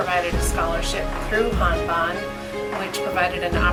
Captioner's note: speaks softly